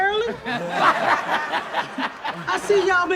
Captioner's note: audience laughs